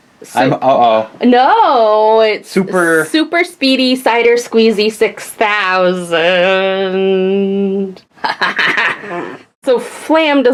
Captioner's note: laughs